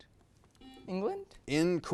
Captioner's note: buzzer beeps